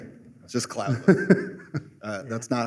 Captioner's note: laughter